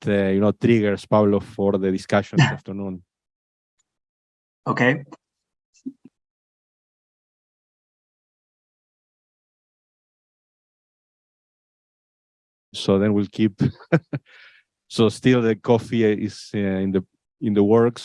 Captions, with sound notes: You know, triggers Pablo for the discussion this afternoon. >> Okay. So then we'll keep [laughs] so still that coffee is in the works.